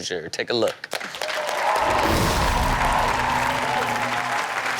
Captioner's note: audience cheers